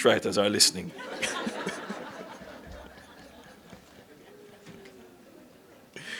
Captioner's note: laughter